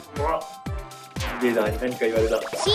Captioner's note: laughs